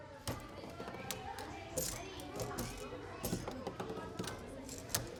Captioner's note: children chattering